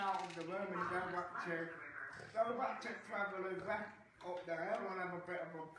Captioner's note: grumbling continues